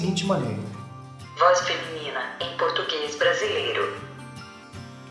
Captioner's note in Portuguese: Voz Feminina em português Brasileiro